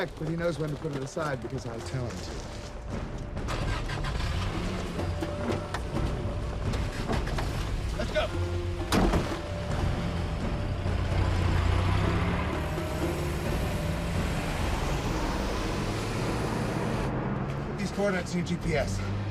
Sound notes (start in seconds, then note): 3.6 engine rumbling; 9.6 lively music